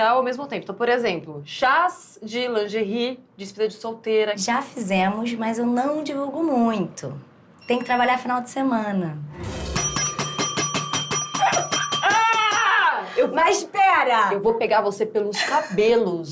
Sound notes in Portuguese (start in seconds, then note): 9.4 várias batidas na sineta; 11.1 grito